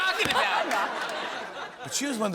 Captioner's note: laughter